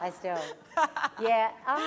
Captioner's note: laughter